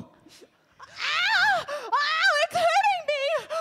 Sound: wailing

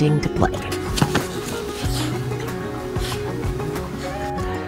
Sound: sniffing

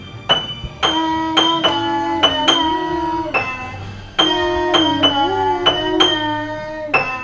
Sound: vocalizing eerily

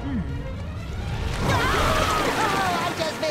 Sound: screaming

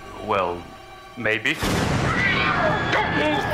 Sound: gunshot

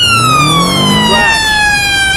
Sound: crash

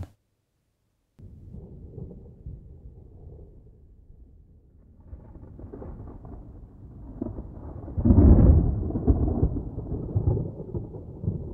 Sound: sounds of a thunderstorm can be heard

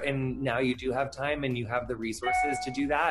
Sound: phone notification

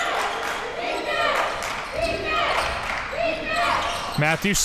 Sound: crowd cheering

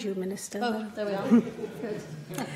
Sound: laughter

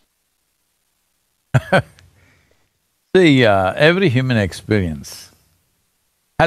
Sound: laughs

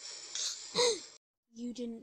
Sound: gasp!

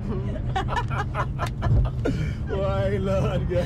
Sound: laughing

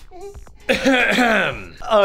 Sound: ahem ahem

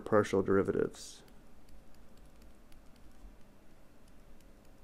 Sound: clicking

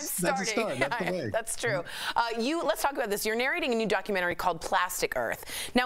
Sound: laughter

